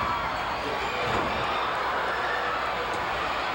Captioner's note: floor banging